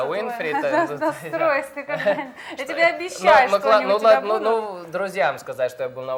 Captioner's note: laughing